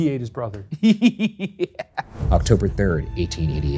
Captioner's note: laughs